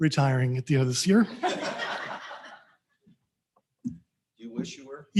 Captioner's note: all laughing